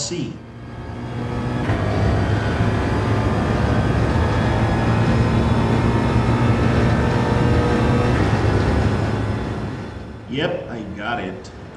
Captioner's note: engines revving, tyres grip, racing sounds